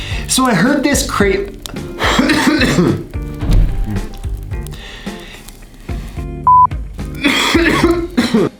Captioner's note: coughs